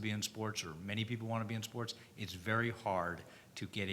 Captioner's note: none